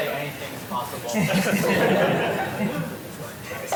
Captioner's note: laughter